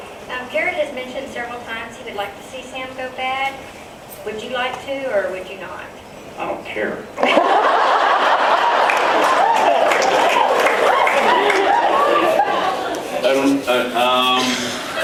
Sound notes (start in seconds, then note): 7.2 laughs, applauds; 7.8 laughs